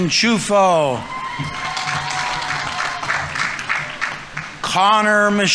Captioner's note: audience members cheering; audience applauding